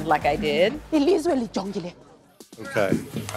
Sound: speaking wakandan

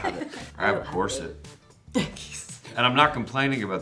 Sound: laughing

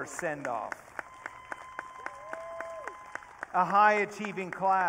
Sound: audience cheering

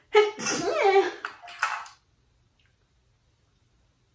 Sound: woman sneezing

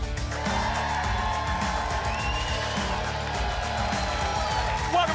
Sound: applause and cheering

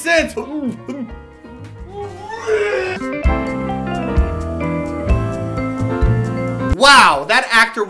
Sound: Barfy bleeeehhhhhs

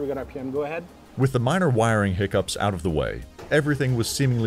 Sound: voiceover

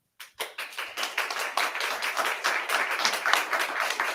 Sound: audience clapping

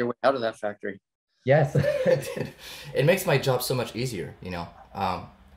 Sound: laughs

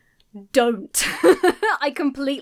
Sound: laughs

